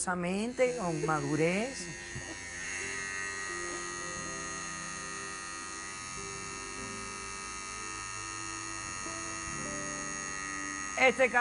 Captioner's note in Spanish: Ruido de máquina